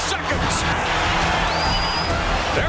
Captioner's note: crowd cheering